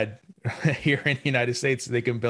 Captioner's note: chuckles